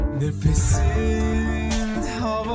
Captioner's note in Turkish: none